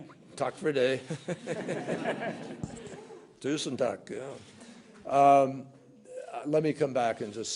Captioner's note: laughter; in Norwegian